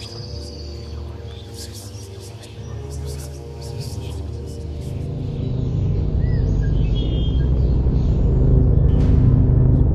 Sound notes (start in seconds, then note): 1.6 whispering Sounds